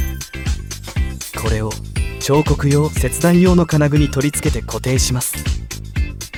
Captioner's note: cutting